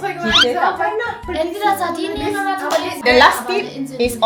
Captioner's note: speaking German